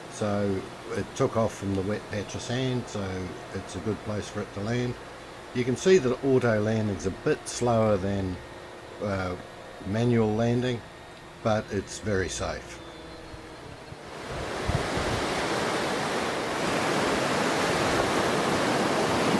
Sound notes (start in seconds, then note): 12.7 drone motor shutting down; 14.0 waves crashing